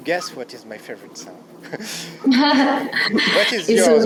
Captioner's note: laughs